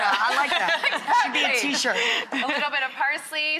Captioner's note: all laughing